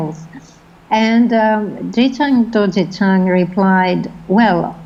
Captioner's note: foreign language